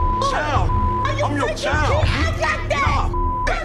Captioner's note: beeping